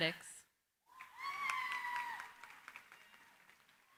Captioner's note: cheering, applause